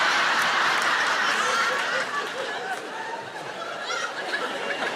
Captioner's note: audience laughing